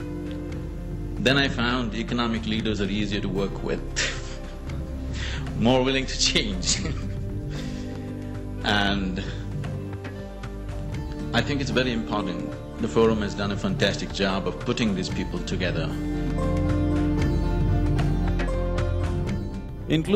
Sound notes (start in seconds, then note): 6.7 laughs